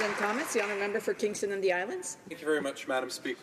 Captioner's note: applause